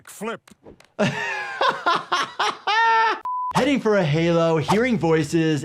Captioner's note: laughing; color bars beeping